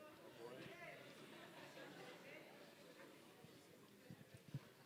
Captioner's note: tittering in audience